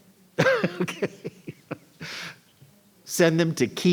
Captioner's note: laughs